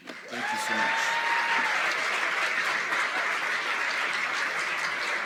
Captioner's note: applause